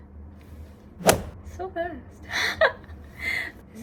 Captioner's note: laughs